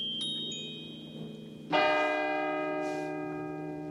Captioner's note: bell tolls